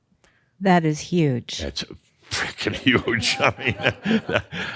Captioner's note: chuckles